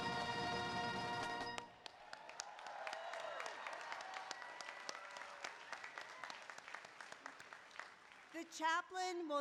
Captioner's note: applause